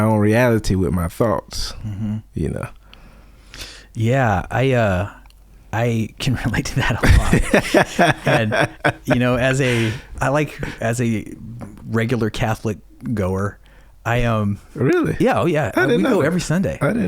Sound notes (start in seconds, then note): 6.8 laughing